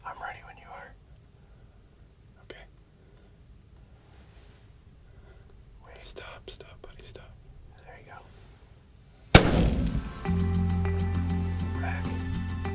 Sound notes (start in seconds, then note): 0.6 whispering; 2.8 whispering; 9.3 gun shot